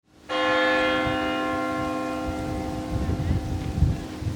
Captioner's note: church bell ringing